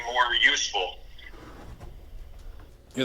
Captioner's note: whispers